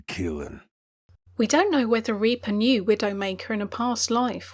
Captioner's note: voiceover